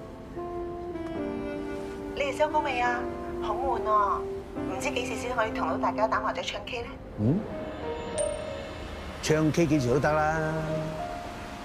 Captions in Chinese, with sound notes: 你們收工沒有？ 好無聊, 不知何時 才可以跟大家打麻將、唱卡拉OK [訊息錄音提示聲] 唱卡拉OK隨時都行